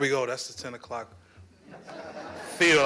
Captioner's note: laughter